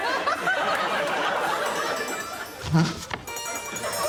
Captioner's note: audience laughing